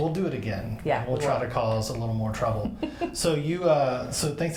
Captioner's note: laughs